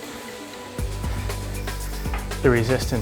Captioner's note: bike whirs